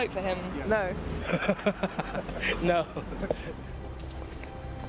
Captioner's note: laughs